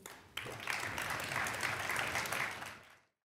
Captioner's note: applause